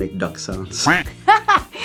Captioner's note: duck Quack sound